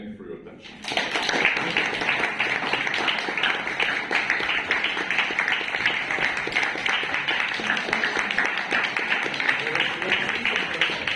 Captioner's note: applause